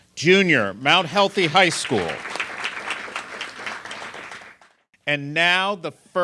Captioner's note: applause